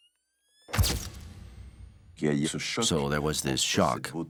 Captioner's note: camera snaps